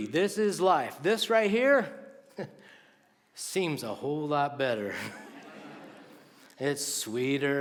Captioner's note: laughter